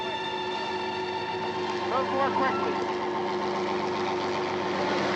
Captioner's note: helicopter whirring